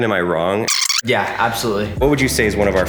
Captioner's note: camera rewind squeaking